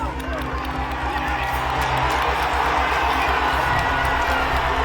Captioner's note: crowd cheering and applauding